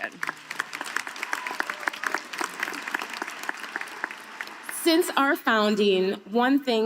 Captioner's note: applause